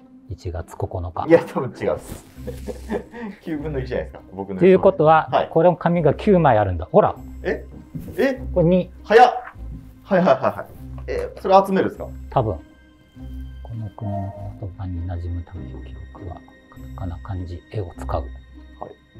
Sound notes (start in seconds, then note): 2.4 laughing